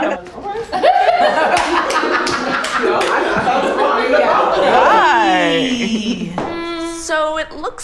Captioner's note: laughter & clapping